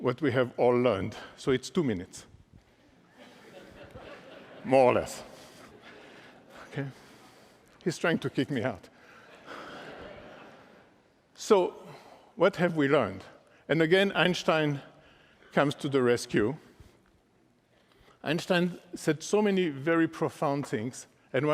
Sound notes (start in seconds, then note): 9.1 laughter